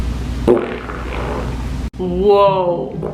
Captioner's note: fart